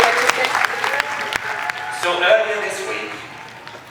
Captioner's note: people cheer and clap hands